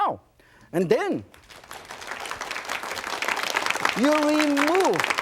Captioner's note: audience clapping